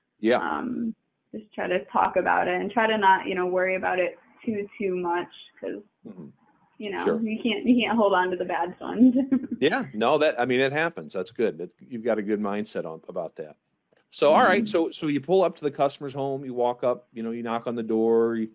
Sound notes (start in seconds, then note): 9.6 laughing